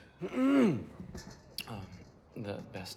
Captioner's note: Adrian clears throat